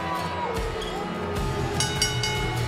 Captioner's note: cheers and boos; bell ringing